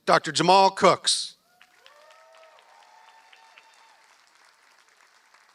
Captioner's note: applause